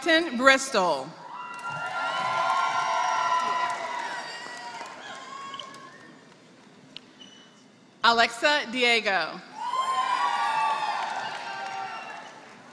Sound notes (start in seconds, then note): 0.0 applause; 10.4 applause